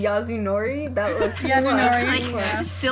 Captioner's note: laughs